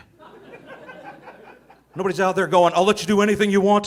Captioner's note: audience laughing